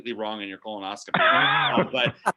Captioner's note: laughing